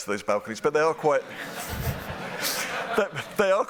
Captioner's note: laughter